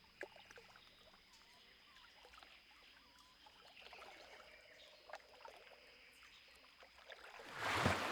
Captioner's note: water gurgling